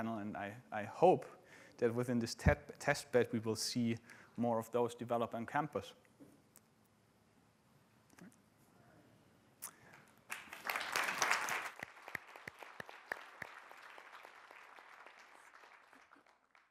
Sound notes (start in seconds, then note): 9.8 audience clapping